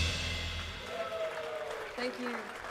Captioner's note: audience clapping